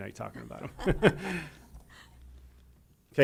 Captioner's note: laughter